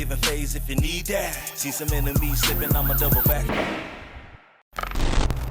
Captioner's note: sirens wailing